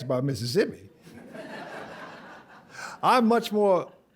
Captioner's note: laughter